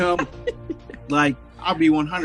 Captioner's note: laughing